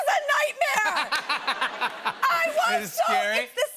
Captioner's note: laughter